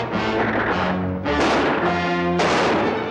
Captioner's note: gunshots